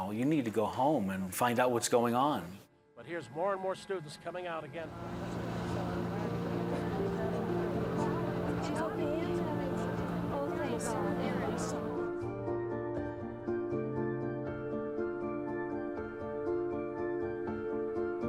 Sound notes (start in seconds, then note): 7.8 chatting; 11.7 soft music